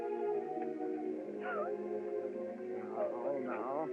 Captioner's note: crying